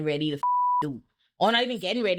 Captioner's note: beep